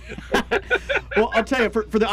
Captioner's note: men laugh